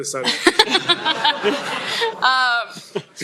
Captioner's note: laughter